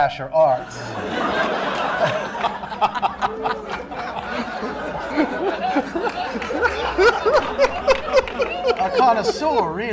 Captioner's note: laughter